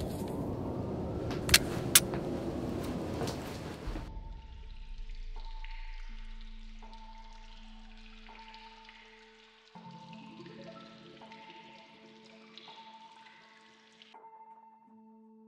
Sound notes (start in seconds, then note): 4.7 suspenseful music; 4.7 water splashing